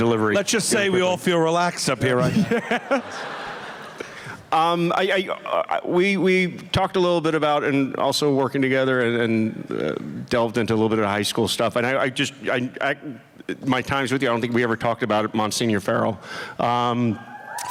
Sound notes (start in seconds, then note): 2.2 laughter